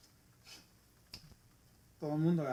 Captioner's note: snapping with style